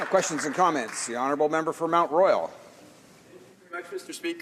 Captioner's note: applause